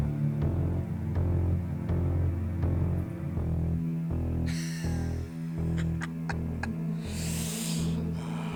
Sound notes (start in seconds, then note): 5.5 laughing